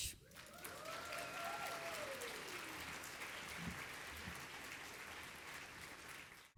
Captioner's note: audience applauding